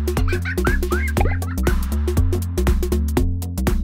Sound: laughter

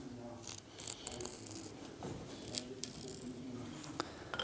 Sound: quiet conversation in the background

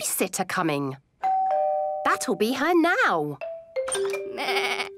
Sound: doorbell rings

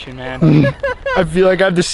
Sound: laughing

